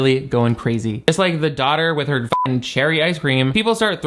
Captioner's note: beep